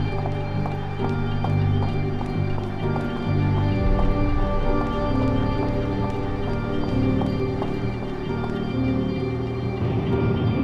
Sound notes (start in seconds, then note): 0.5 footsteps clicking; 7.3 deep mysterious music